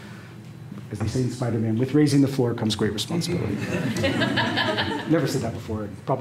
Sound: laughter

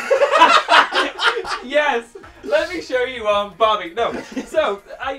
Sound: laughs

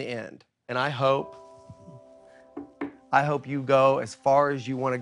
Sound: knocks on table

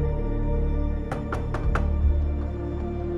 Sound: knocking at door

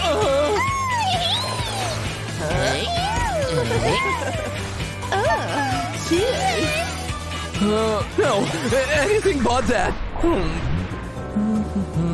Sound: making happy sounds

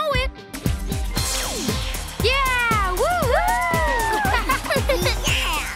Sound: kids laugh and cheer

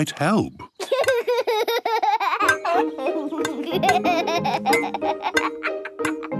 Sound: laughs

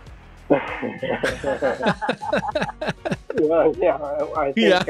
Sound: all laughing

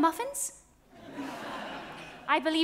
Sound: audience laughs

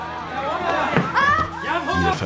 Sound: screams

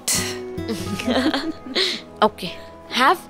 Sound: both laughing

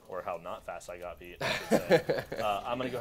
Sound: laughing

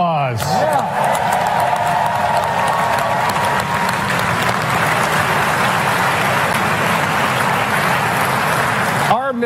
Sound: applause

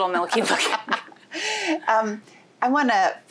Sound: both laughing

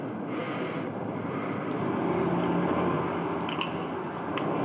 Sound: vehicles humming

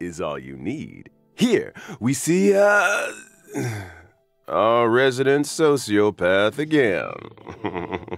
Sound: sigh

